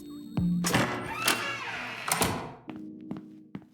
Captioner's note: door creaks open and slams